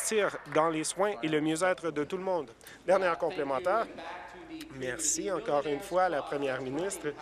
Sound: applause

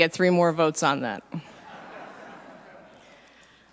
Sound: laughter

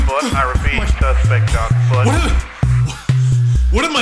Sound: gasping

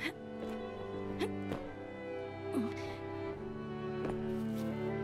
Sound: somber music; Moira gasps and grunts

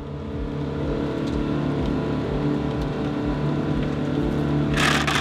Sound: vehicle engine hums

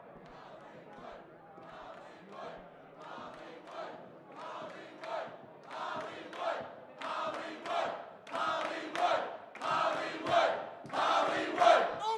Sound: crowd chanting

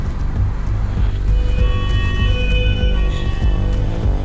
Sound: ambulance siren

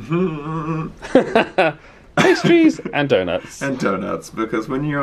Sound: chuckles

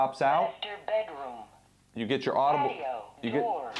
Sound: computer voice

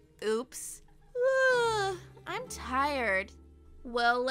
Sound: yawns

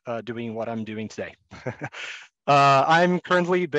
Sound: laughs

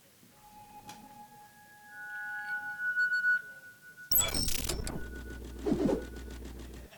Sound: high-pitched electronic squealing and sizzling

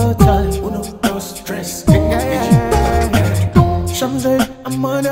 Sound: counting in Spanish & Yoruba

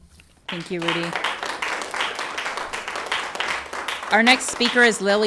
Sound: everyone applauds

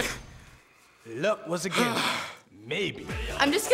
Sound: heavy sigh

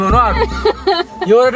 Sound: laughter

